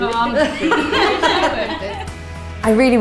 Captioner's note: laughing